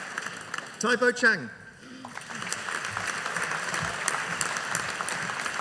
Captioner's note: audience applauding